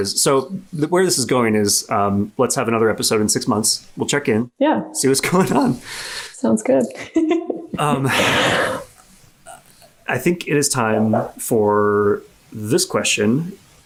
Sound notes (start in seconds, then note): 6.9 laughs